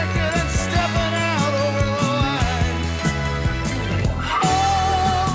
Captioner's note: none